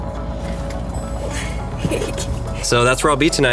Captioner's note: upbeat music; laughs